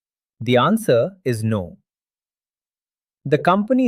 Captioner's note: pause